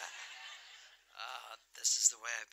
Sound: laughter

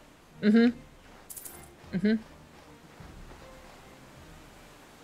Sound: laugh

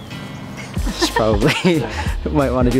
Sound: laughs

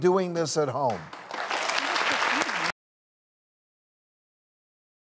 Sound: audience applauds

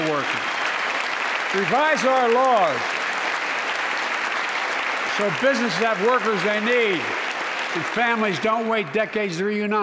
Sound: applause

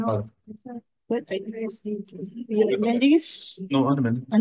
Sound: members chattering

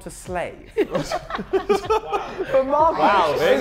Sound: Sidemen laughing

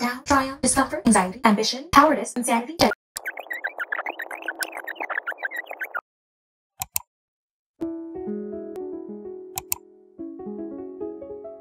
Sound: scrolling sounds

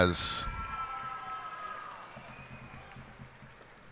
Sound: cheers and applause

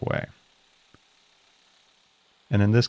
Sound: milling machine whirring

